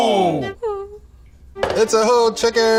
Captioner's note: woman whimpers